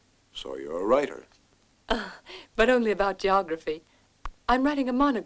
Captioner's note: chuckles